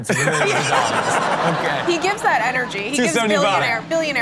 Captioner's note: everyone laughs